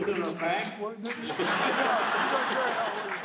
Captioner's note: crowd laughing